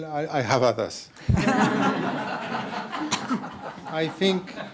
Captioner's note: laughing